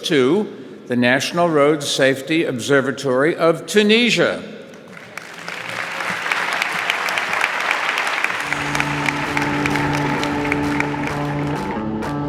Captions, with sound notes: to the National Road Safety Observatory of Tunisia. (audience applauding) (upbeat music)